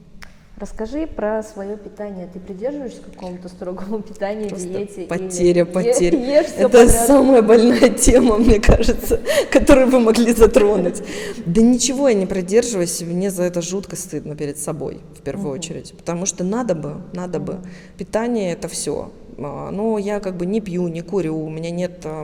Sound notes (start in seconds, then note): 5.7 loughs